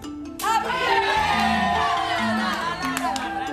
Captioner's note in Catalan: cridòria